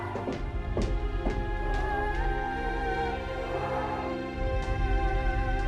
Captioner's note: continuing screams